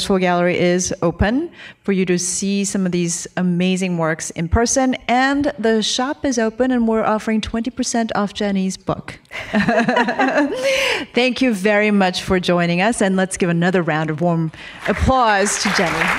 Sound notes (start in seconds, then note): 9.3 laughter